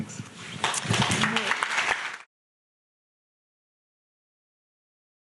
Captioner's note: audience clapping